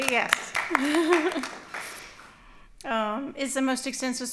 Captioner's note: applause